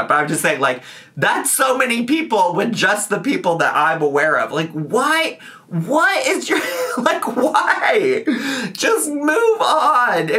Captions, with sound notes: But I'm just saying, like, that's so many people when just the people that I'm aware of, like why is your, like why? (laughing) Just move on!